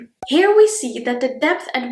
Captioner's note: bubble pops